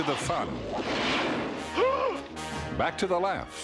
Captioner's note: gasps